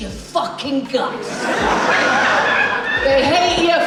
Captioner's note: audience Laughs